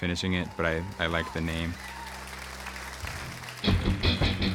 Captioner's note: applause